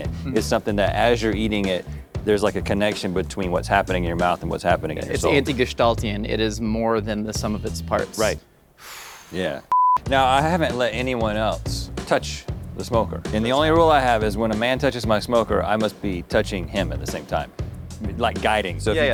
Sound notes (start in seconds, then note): 8.8 exhales; 9.7 beep